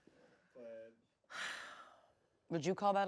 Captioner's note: sighs